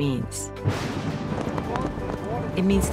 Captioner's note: thunder crashing